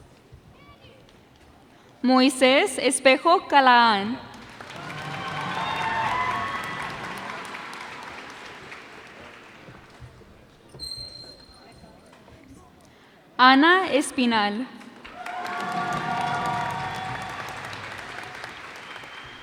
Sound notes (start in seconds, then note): 4.2 cheers and applause; 15.0 cheers and applause